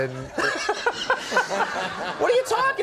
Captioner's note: Conan laughing